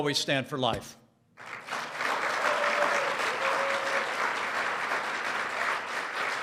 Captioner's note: applause